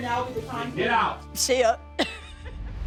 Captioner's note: laughs